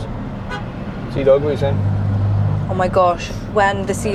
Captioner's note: car hoots